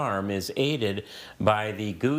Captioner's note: none